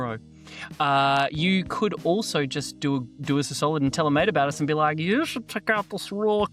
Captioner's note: in a weird voice